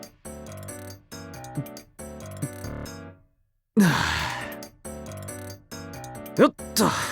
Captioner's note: sigh